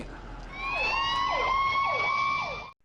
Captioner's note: police sirens